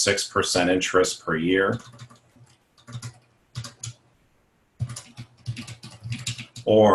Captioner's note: typing